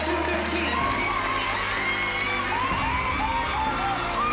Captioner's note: cheering and applause